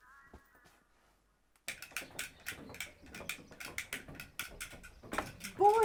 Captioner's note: cap guns clicking